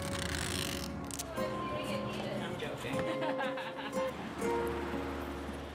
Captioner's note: indistinct conversations